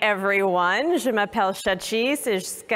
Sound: speaking french

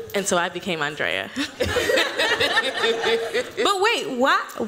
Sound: laughter

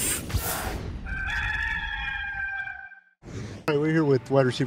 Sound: rooster crowing

